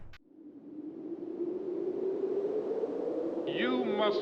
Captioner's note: wind